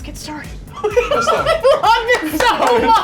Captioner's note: laughing